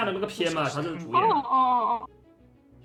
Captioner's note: discussion expands